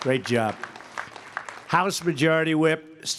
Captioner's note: applause